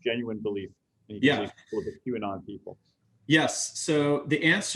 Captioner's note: audio glitch